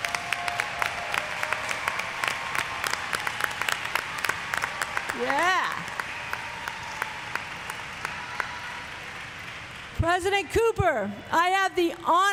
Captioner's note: applause